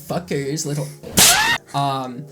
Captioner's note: smack